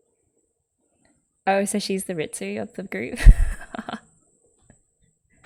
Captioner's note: laughs